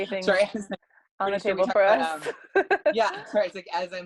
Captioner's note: laugh